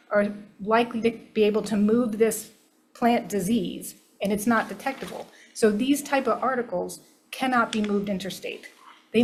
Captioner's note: none